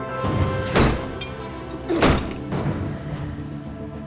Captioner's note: intense dramatic music; door lock clanging; intense dramatic music